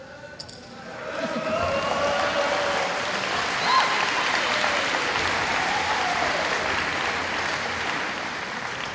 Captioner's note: applause